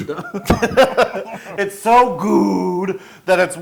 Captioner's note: laugh